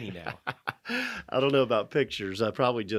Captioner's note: laughing